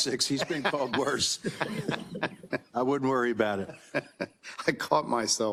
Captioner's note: laugh